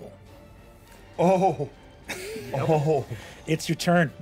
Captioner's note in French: rire